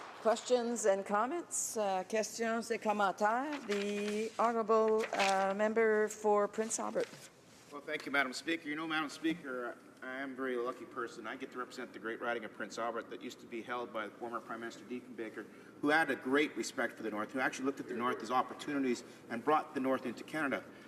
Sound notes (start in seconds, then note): 8.2 speaking French